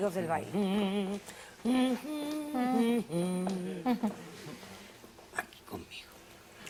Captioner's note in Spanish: La Doctora tararea; Susurra